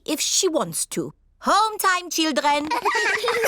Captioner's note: all giggle